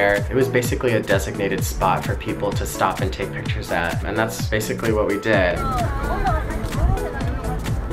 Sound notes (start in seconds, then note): 5.3 overlapping chatter; 5.7 techno music